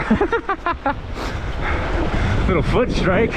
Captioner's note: laughing